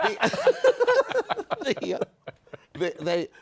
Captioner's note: laughter